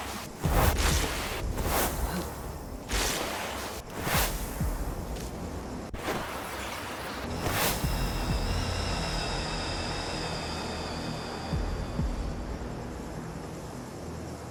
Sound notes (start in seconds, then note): 2.0 grunting